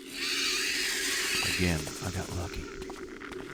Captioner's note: whispers